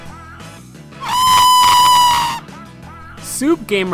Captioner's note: screaming